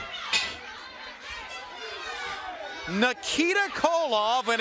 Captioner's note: crowd chatter